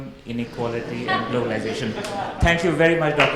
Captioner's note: audience laughs